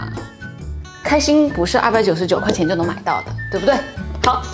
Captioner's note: bloops at the end